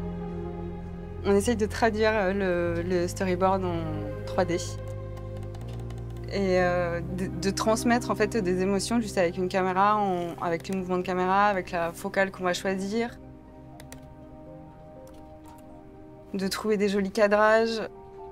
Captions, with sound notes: [IN FRENCH] We try to translate the storyboard into 3D... and to get across the emotions just with a camera, with the camera movements, or the focal length we choose... to find nice framing...